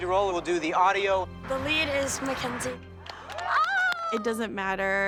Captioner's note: all cheering